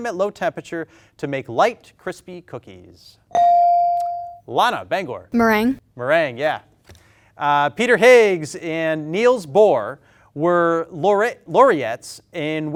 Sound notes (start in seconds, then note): 3.4 bell dings